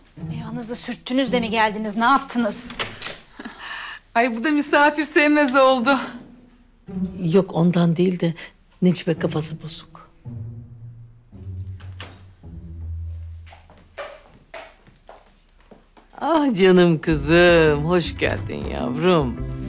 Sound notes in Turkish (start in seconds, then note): 11.7 Kapı kapanma sesi; 12.6 Ayak sesleri